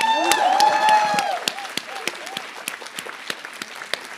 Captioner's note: applause